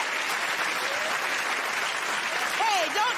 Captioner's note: cheers and applause